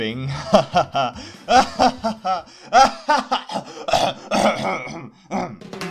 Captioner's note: coughcoughcoughcough